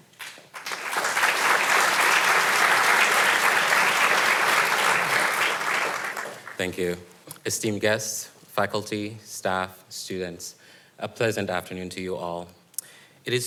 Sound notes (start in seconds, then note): 0.1 audience applauding